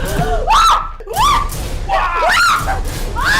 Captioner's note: screaming